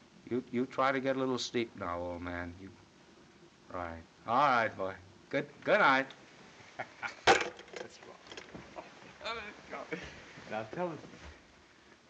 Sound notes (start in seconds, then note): 6.7 chuckles; 7.6 indistinct chatter